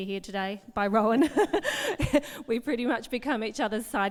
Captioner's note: laughs